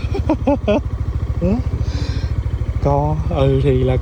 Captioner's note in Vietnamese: tiếng cười